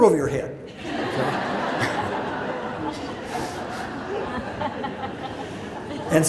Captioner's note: audience laughs